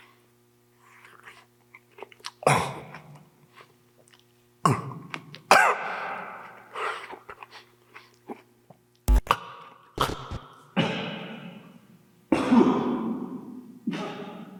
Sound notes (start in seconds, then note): 2.8 Jacob coughing; 9.4 Jacob coughing; 10.0 static crackles